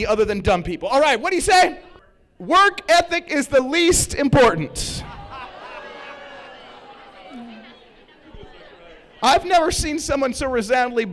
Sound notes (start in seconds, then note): 4.8 laughs